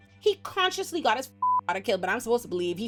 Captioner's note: beep